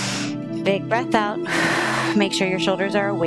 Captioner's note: exhales; inhales